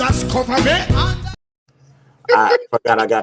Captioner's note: laughing